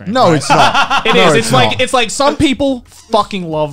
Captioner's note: laughs